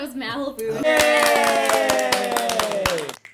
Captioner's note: various groans; cheering